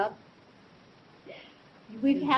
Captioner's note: laughs